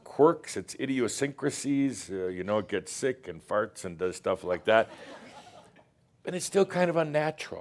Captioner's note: some laughter